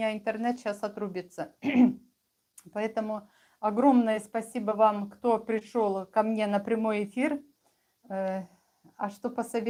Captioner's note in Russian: откашливается